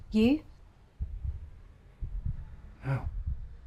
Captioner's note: heart pounding